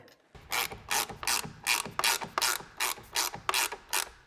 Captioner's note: wrench ratcheting